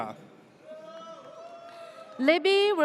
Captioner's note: audience cheers